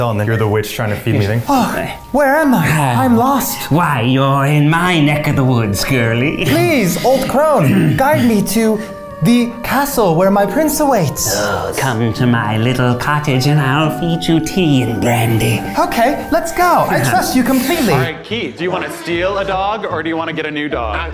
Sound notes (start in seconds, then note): 1.4 gasps